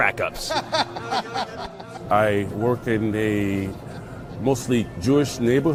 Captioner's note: laugh